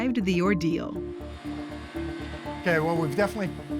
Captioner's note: whirring